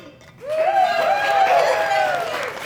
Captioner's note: audience Cheering